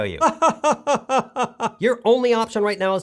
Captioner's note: laughs